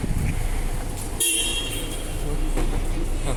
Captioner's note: bus honks